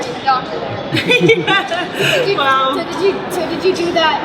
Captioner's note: laughs